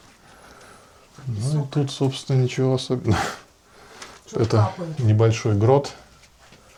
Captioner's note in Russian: фыркает